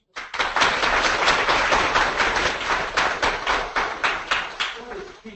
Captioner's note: audience applauding